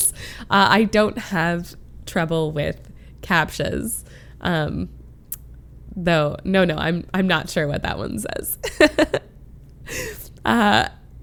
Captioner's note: laughs